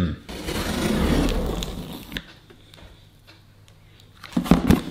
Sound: blade cutting

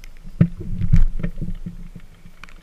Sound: boat sounds

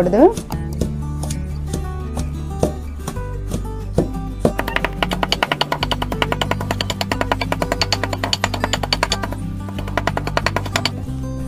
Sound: hand Craft Grinder Grinding SOUND

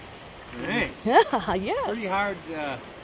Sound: laughing

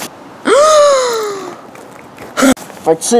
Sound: gasp

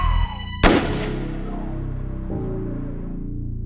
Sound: gun fires

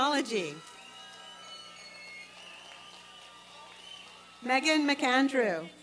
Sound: applause and cheering

